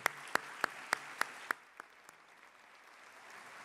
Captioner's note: applause